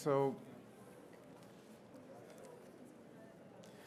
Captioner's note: people chattering